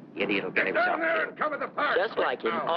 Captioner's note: shouting